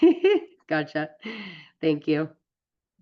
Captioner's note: laughs